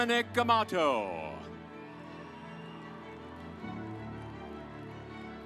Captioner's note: audience applauds